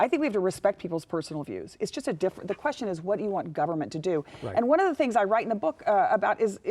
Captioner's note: none